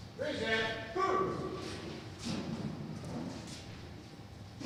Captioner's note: yelling